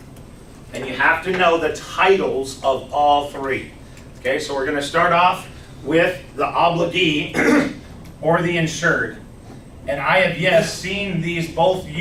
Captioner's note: clears throat